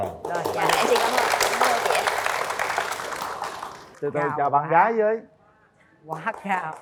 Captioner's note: applause